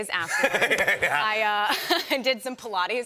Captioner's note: laughter